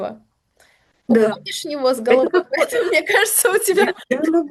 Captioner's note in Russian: смех